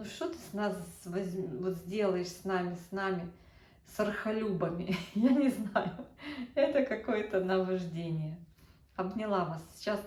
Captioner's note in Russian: смех